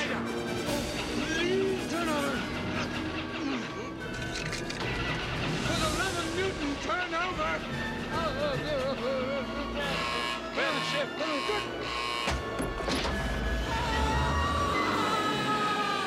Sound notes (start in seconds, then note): 7.8 engine Cranking; 9.8 alarm Ringing; 13.6 screaming